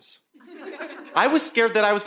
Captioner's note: audience laughing